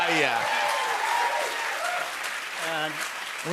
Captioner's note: cheers and applause